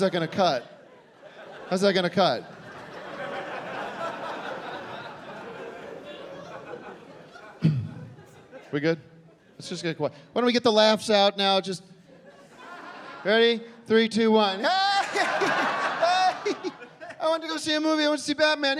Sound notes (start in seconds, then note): 14.5 laughing